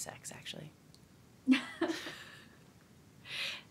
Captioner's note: laughs